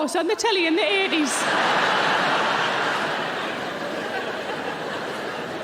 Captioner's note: audience laughing